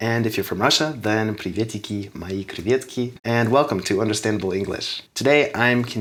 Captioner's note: russian Noises